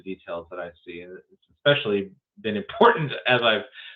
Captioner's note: laughs